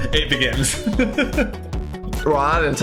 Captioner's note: Phil laughs